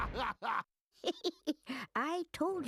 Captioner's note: giggling